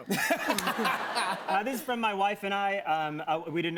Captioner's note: laughter